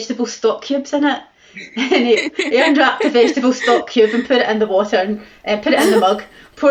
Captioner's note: laughter